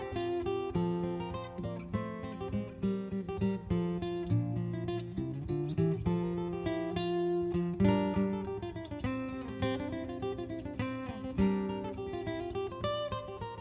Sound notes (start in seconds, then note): none